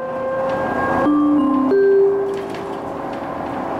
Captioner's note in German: Gong